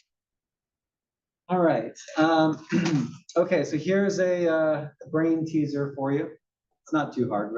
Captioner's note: cough